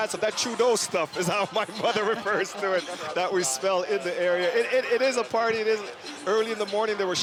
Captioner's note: laughter